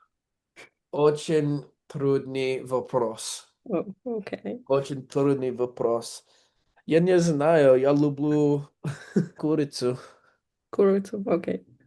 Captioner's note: speaking russian